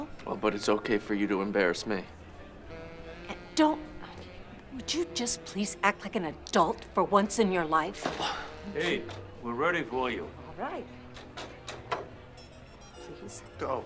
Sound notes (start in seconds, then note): 3.9 sighs; 8.1 Drew scoffs